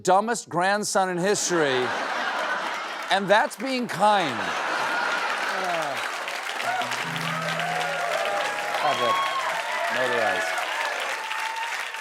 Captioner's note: applause